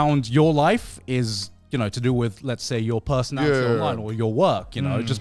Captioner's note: laughs